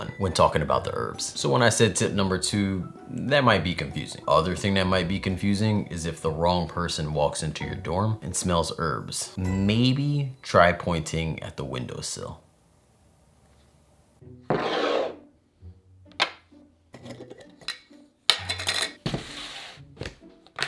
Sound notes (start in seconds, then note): 14.4 jar sliding